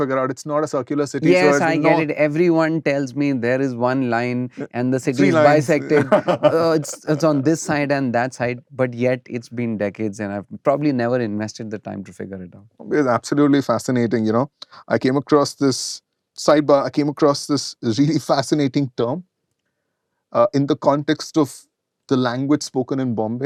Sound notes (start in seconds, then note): 5.2 laughter